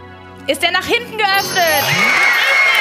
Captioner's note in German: Jubel